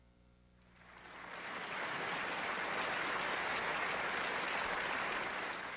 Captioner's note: applause